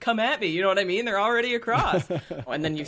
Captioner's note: laughing